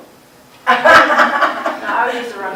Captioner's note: laughter